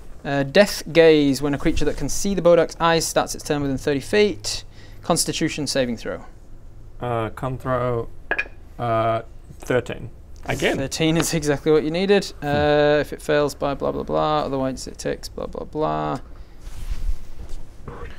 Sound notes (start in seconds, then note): none